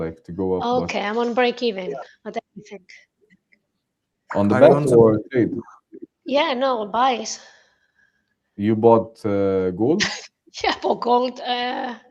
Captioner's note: laughter